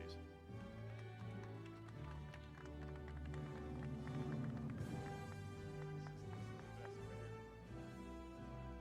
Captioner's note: applause